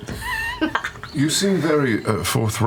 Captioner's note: cackles